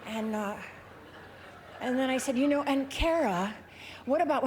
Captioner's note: laughter